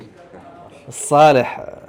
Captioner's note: Arabic